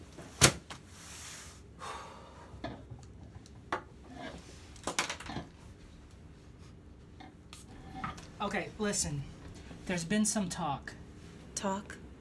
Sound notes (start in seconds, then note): none